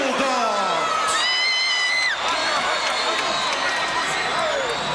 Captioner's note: audience cheering